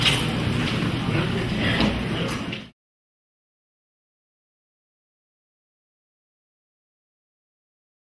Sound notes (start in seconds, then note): 0.5 crowd talking